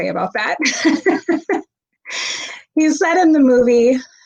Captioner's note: laughing